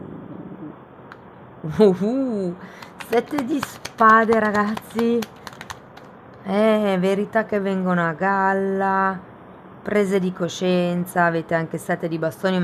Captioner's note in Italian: Applauso